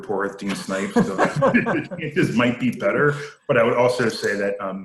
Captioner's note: laughing